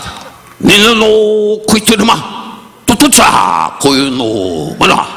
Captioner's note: Don speaking in Japanese